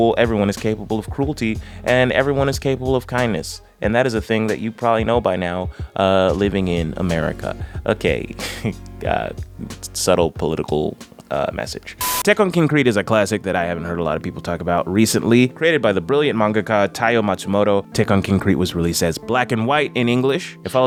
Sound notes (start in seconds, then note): 8.3 chuckles